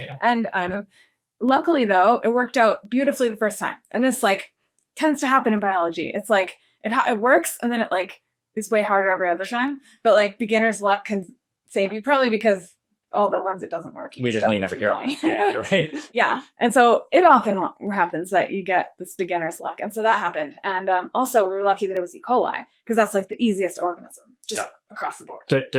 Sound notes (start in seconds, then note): 18.9 laughs